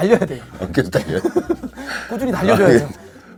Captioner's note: haha